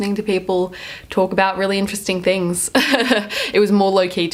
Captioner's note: laughs